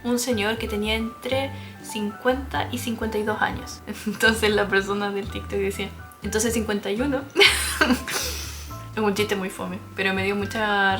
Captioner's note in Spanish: risas